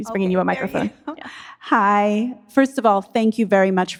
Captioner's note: laughs